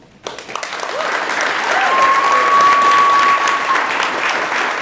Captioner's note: attendees applaud and cheer